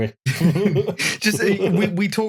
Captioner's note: laughter